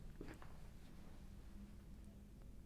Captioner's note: footsteps plodding